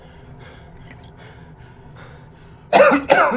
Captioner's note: Miles pants; Miles coughs